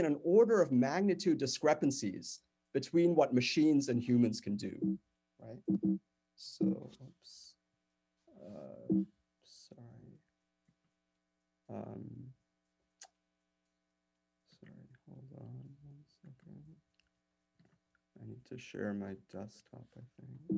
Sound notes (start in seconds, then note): 5.6 computer keyboard tone beeps